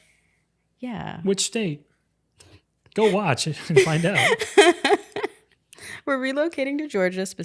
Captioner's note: laughing